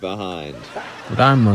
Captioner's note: laughter